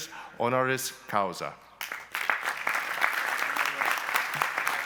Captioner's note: speaking in a foreign language; applause